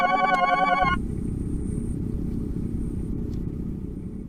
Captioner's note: bright tones; rumbling sound